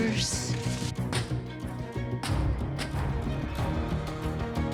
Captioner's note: feet thudding